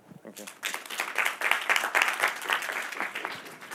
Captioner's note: applause